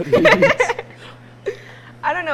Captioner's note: laughing